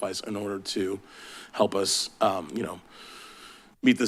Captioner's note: sighs